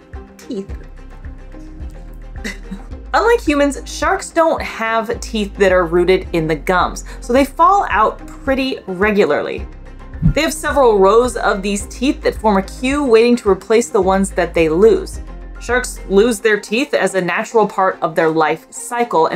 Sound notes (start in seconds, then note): 0.0 background music; 2.4 chuckles